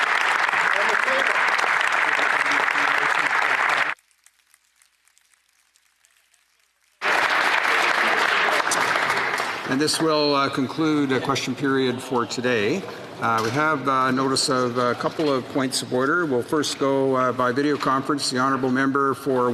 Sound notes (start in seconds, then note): 9.6 applause